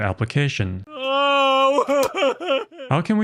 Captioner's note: crying sound